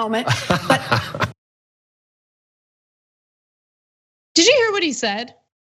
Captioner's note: laugh